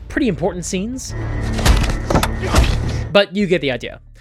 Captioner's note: sickening wet crunches